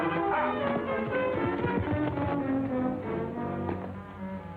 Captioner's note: horse galloping